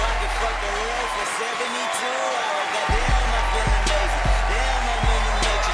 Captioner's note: audience applauding, cheering